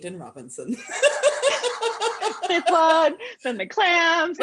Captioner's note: laughter